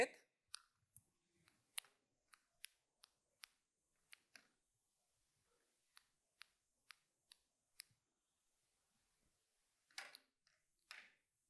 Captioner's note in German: Klicken